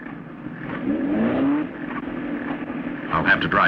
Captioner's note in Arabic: صوت المحرك